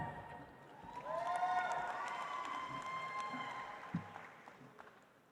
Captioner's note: audience applauds